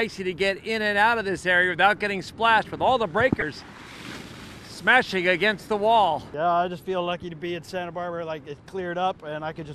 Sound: sound of splash

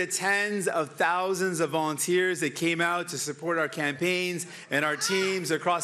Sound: cheering

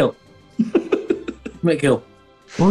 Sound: giggling

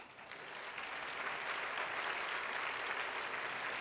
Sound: applause

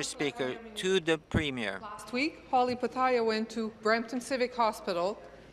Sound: speaking in French

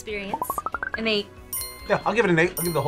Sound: items popping

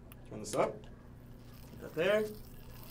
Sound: egg sizzles

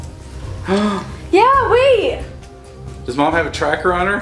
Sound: dad gasps

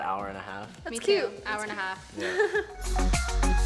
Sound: chuckles; upbeat music

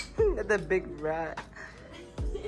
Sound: laughs

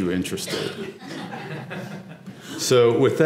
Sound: laugh

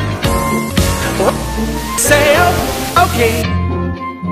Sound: glitchy

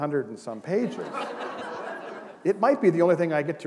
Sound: laughter

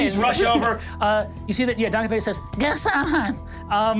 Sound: murmurs

